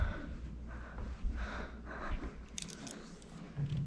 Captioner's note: scared breathing